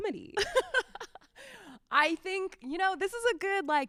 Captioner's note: laughs